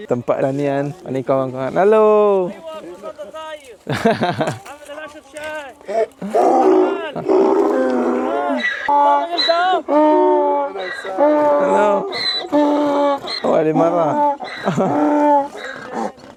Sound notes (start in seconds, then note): 3.5 speaking Arabic; 5.4 donkey braying